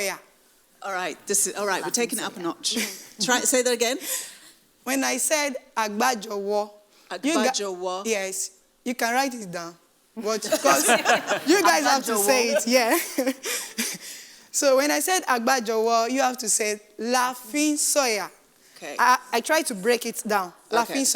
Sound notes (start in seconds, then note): 5.4 speaking in foreign language; 13.9 laughs; 15.2 speaking in foreign language; 20.9 speaking in foreign language